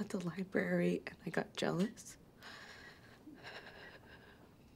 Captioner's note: sighs